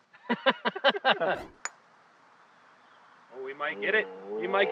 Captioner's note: laughing